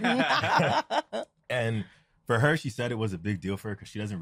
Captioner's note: laughter